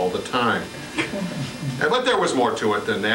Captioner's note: laughter